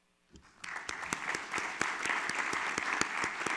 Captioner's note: all clap